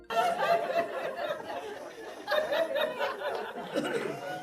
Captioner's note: audience laughing